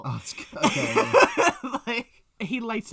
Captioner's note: laughs